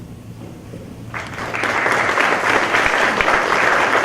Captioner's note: applause